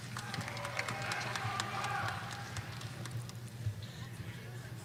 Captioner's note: audience applauding